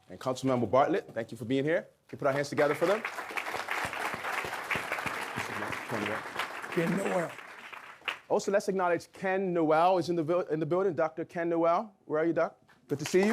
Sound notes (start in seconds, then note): 2.3 audience clapping